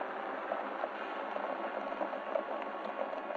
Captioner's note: hooves clattering